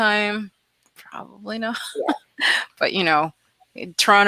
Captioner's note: laughs